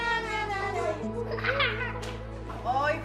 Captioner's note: child and nurse singing; child laughing